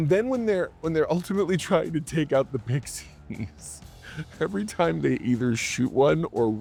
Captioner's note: laughs